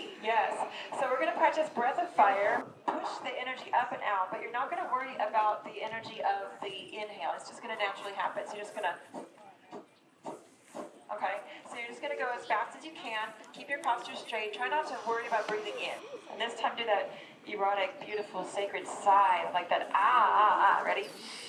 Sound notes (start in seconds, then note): 11.4 breathing sounds